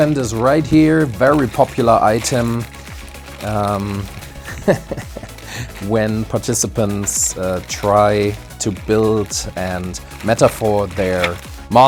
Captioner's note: laughs